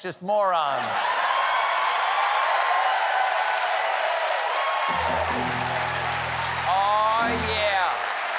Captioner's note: cheers and applause